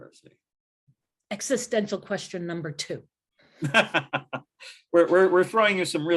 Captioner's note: laughter